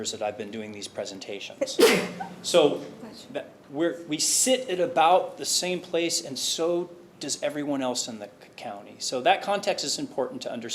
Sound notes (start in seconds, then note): 1.6 committee member sneezing